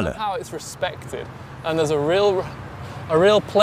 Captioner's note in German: Er beendet den Satz auf Englisch